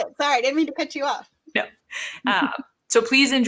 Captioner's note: chuckling